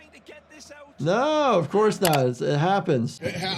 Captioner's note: keyboard clicking